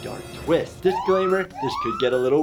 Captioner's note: siren blaring